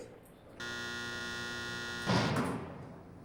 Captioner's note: buzzer